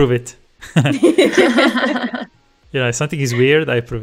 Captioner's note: laughter